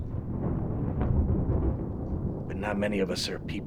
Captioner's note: thunder rumbling